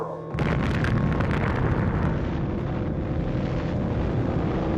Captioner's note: huge explosion